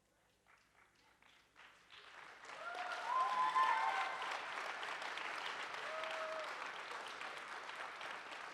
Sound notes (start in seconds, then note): 1.9 audience cheers and applauds